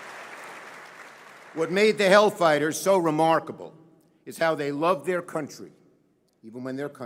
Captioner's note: applause